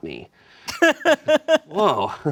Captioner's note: laughs